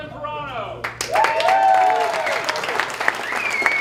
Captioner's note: applause